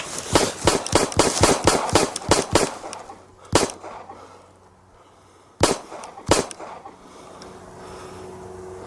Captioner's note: gunshot noises; aircraft noises & heavy breathing